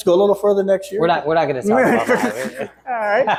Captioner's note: laughing